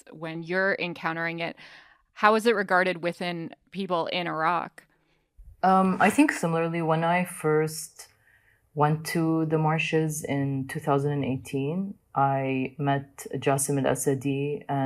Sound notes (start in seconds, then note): none